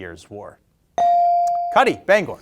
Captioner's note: bell ringing